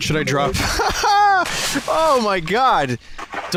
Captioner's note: laughs